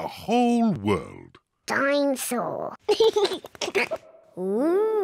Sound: giggles

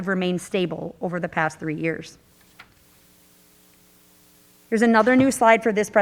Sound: paper rustling

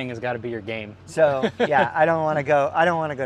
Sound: laughing

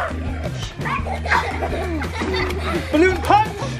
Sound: laughing

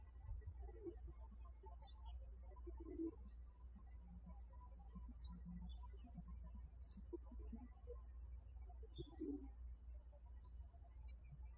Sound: birds chirping

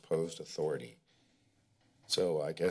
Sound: pause

